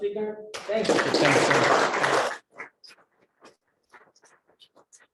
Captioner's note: audience clapping